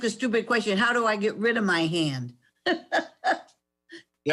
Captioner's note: laughs